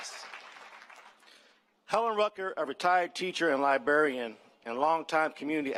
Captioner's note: applause